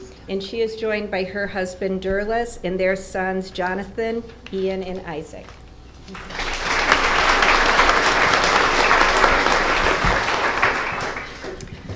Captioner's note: applause